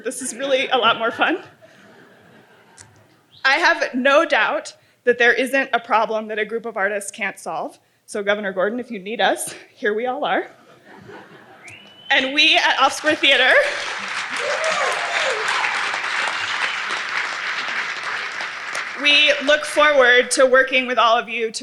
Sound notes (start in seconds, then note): 13.0 audience applauding and cheering